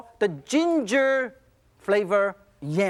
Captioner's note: none